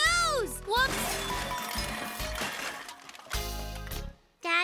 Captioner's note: clattering